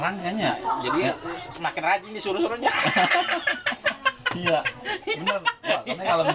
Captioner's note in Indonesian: ketawa monyet